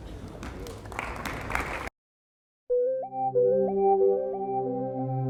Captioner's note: applause; gentle pop music